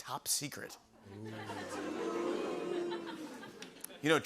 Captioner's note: audience "Oohs"